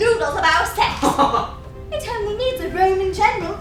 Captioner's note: laughter